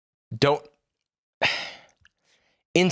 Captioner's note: sighs